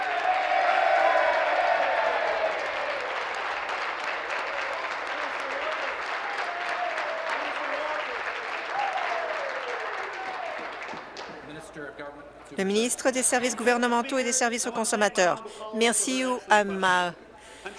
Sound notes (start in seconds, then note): 2.2 applause; 3.2 cheering